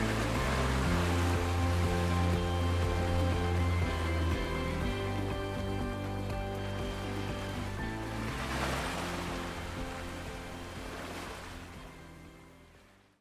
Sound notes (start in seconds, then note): 0.0 bright upbeat music; 3.4 waves splashing